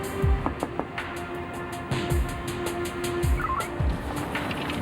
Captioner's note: banging on window